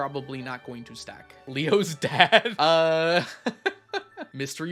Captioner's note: laughs